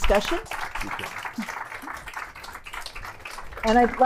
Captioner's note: applause